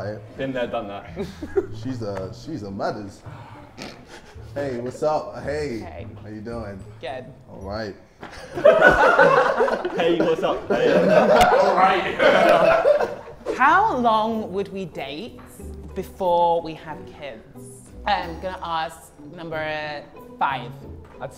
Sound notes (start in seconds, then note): 8.2 Sidemen laugh